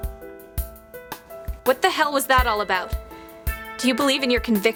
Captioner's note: shouting